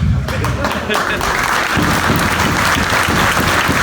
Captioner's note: audience applauds; banging on mat